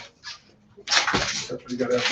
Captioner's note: velcro strip crackles